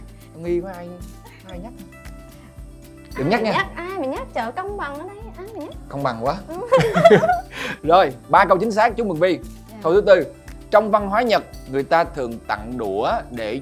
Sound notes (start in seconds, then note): 6.7 laugh